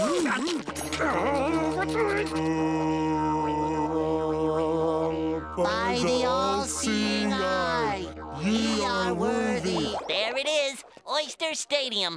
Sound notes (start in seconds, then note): 2.3 humming